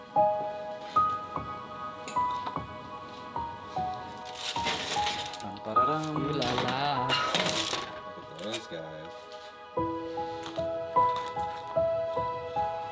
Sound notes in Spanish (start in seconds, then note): 5.9 canturreando; 9.9 música de piano